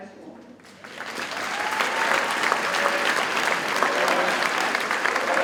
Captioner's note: audience cheers and applauds